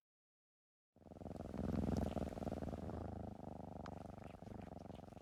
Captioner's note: cat purrs